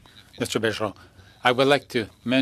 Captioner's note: speaking French